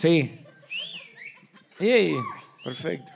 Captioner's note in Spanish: Chiflidos